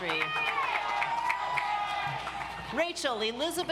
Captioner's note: audience applauds